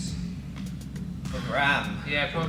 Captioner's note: sigh